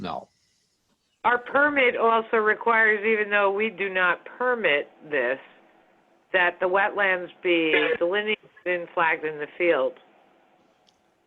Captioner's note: phone